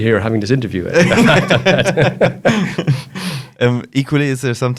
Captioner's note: laughs